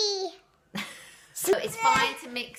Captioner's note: laughs